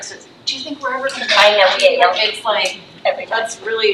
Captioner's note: faintly speaking